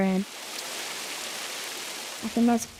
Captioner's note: rain falling